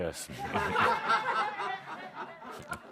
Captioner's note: laughter